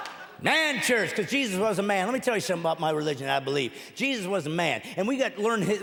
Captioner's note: laughing